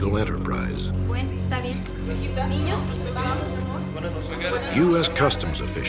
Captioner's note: speaking spanish